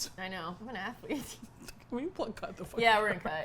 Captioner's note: both laugh